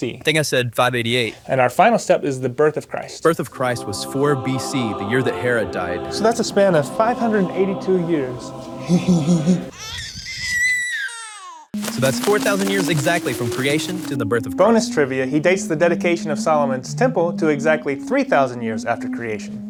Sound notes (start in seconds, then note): 9.6 baby cry